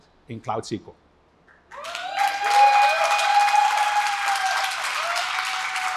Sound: applause; cheering

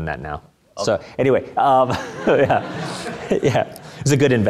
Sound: laughter

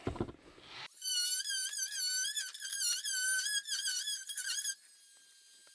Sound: oscillating tool cutting

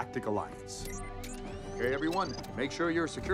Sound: buttons beep

